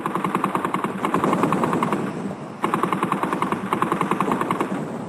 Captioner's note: guns firing rapidly